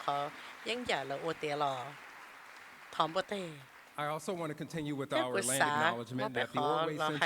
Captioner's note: applause